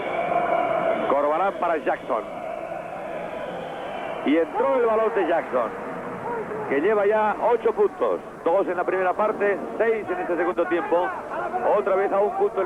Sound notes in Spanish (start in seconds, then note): 3.0 ovación